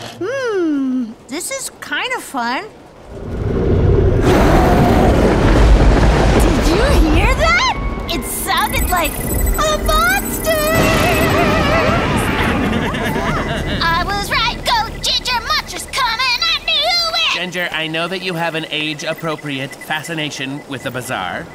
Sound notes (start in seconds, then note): 3.5 monstrous growl; 5.7 thunder clap; 10.7 thunder clap; 12.6 sad man sobs